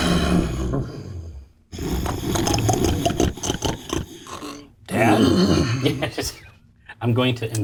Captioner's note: growls and snorts